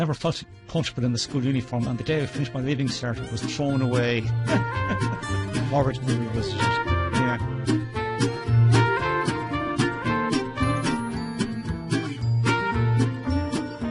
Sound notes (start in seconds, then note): 4.4 giggling; 5.8 jaunty music